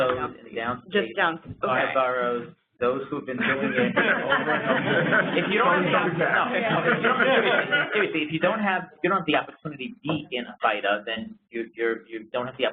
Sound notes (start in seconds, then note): 6.4 laughter